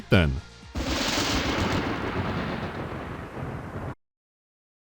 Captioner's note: rolling thunder